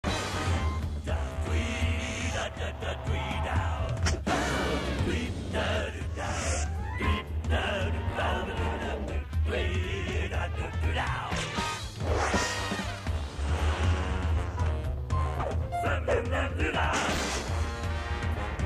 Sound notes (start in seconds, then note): 0.5 sign buzzing